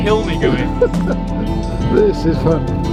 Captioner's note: laughing